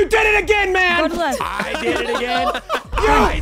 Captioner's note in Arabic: المشاركون يضحكون